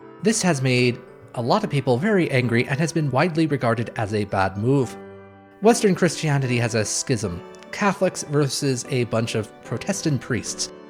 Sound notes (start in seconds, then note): none